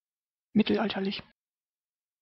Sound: fast Pronunciation

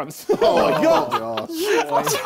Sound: both laughing

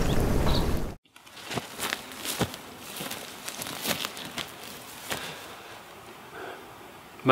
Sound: rustling

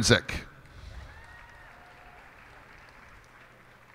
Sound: cheers and applause

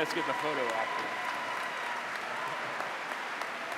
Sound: applause

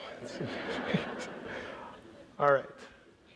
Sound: audience laughs

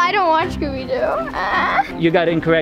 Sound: whimpers

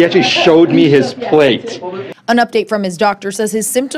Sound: laughter

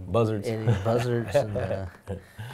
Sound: laughing

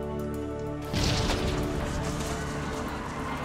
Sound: boom

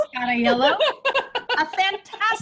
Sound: laughing

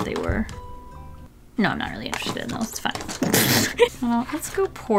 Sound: laughs

